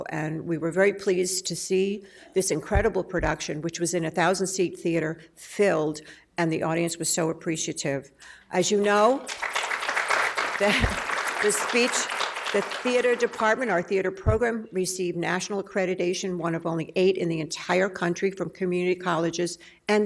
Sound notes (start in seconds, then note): 9.1 audience clapping